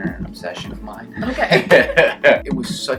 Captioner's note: laughs